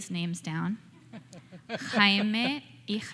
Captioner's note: laughing